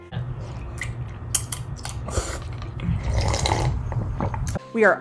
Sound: slurping

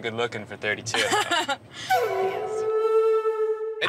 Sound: laughs

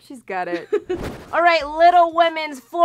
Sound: giggles

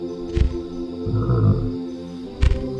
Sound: growling

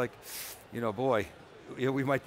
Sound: inhales sharply

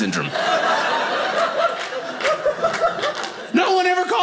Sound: audience laughing

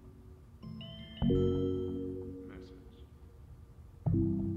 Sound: phone bleeps, says "message"

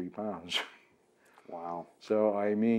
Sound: laughs

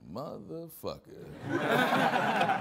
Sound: all laughing

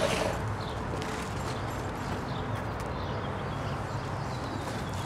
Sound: birds chirping

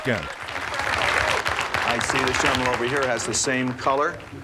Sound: applause

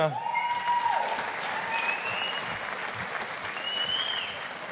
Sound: audience applauding

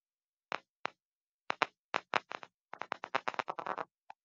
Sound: crackling sounds

